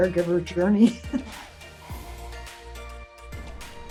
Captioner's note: laughs; upbeat instrumental music